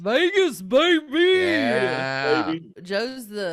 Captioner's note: murmuring